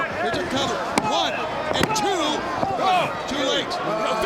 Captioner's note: hand pounding